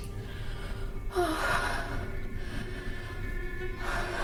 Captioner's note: sighs